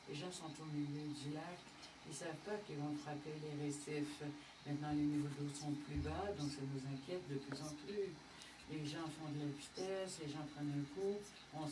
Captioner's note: speaking French